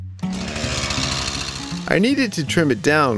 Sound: saw buzzing

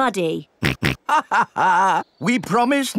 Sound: chuckles; snorts

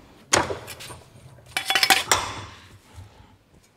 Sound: metal noises

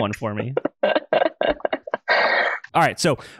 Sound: laughs

